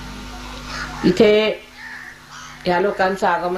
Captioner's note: mother continues in Hindi